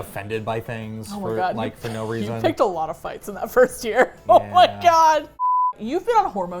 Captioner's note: laughs